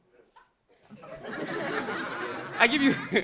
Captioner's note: audience laughing